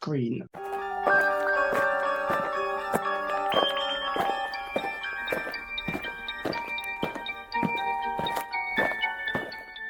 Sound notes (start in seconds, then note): 0.5 eerie music; 5.0 aliens marching